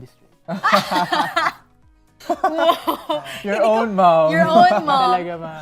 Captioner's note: vjs laugh